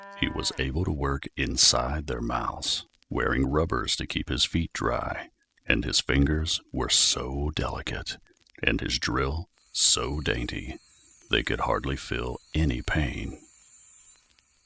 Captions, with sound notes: He was able to work inside their mouths, wearing rubbers to keep his feet dry; and his fingers were so delicate, and his drill so dainty (dentist drill), they could hardly feel any pain.